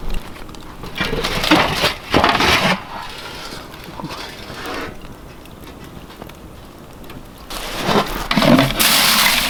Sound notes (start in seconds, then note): 1.2 metal rattling